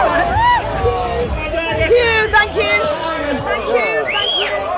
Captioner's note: people cheering and chatting